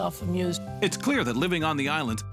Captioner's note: voiceover